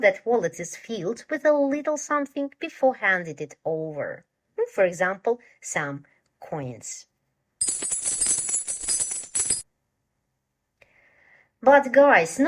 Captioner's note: sound of falling coins down